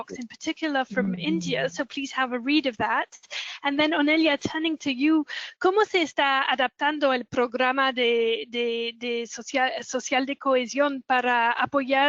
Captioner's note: Spanish